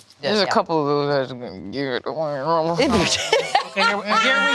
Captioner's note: gibbering